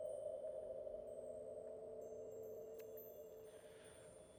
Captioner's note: chimes tinkle